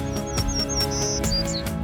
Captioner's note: bird chirping